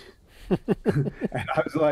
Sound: chuckles

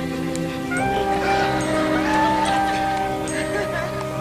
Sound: laughter

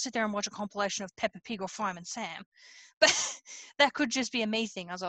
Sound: laughs

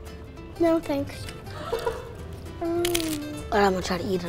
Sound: laughing

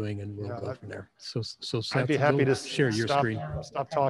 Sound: overlapping chatter

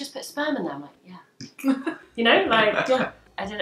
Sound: laughing

